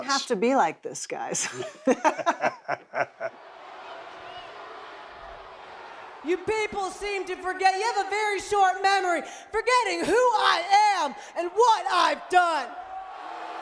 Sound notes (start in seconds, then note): 1.4 laughing; 3.2 audience booing